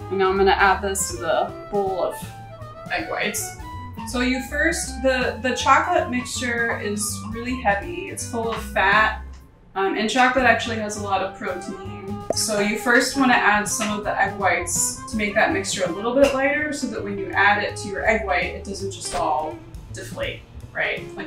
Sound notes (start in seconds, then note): 12.2 bubble pops